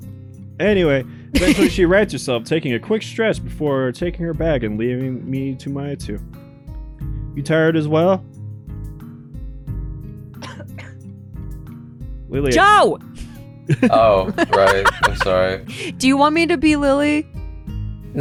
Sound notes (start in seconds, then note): 1.3 laughs; 13.7 laugh